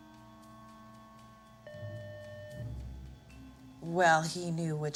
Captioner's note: doorbell rings